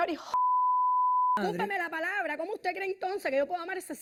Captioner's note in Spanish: Bip